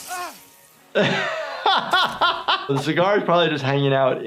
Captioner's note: laughs